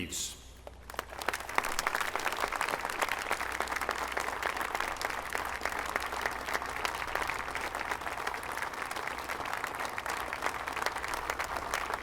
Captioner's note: applause